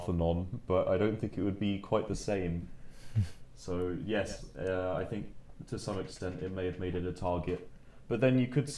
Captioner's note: chuckles